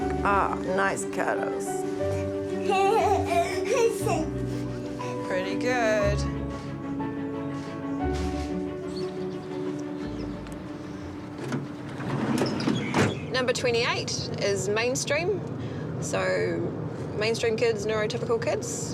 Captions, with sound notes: Oh, nice cuddles. (CHUCKLES) Pretty good. Number 28 is mainstream. So mainstream kids, neurotypical kids.